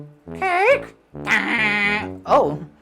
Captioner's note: speaking elvish